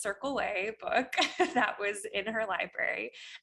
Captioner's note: laughs